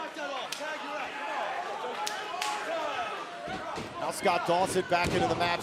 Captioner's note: crowd chatter